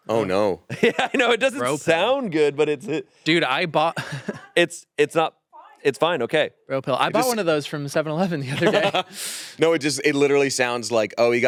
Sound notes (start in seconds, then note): 0.7 laughs; 8.5 laughs